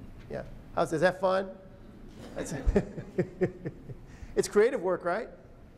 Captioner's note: laughter